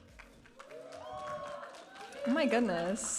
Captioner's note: audience applauding and cheering